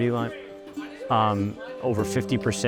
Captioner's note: indistinct background chatter